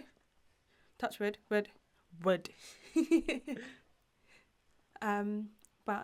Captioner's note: giggles